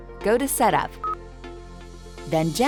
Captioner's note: screen beeps